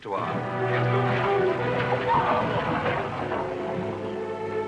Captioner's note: clamouring, screaming